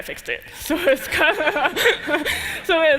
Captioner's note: laughter